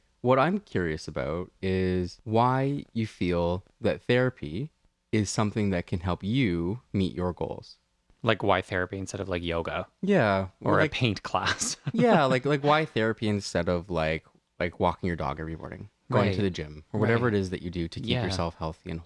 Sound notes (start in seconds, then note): 11.3 laugh